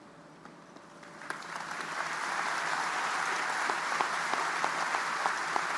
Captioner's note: audience applauding